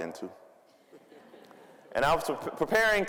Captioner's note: audience laughing